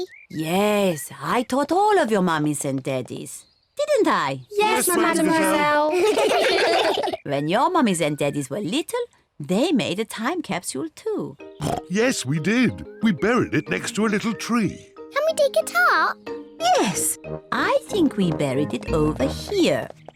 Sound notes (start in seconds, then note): 5.3 all laugh; 11.6 oinks